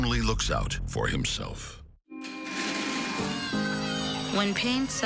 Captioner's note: school bells